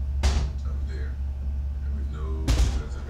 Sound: thunking

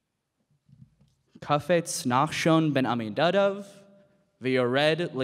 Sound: speaking in Hebrew

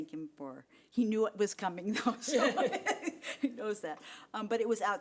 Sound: people laughing

